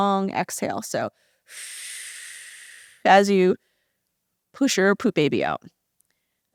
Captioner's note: long, audible exhale